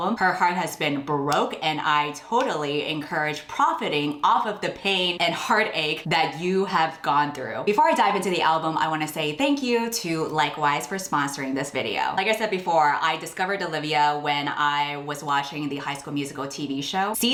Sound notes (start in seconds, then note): none